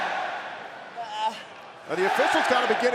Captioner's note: crowd cheering